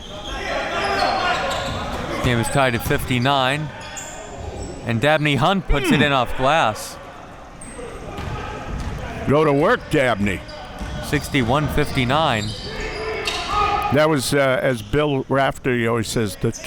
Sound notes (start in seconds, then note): 0.4 audience chattering and yelling; 5.7 grunting